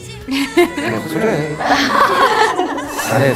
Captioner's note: hahaha!